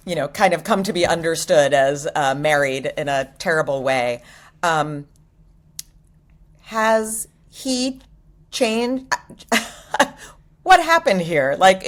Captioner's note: chuckles